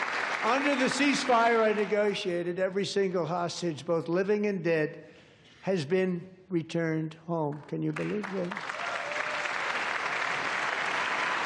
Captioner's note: applause